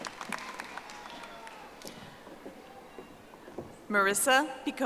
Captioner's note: audience applauding